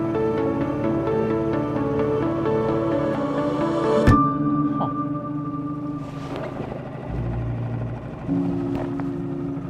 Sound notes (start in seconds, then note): 5.7 engine buzzing